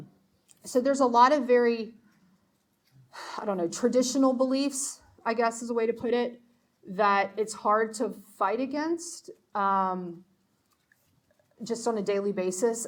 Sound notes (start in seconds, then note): none